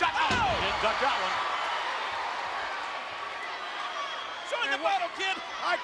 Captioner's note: spectators cheering